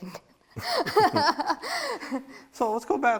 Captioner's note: both laugh